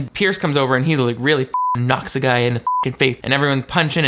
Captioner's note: beep